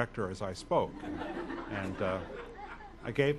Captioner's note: audience laughs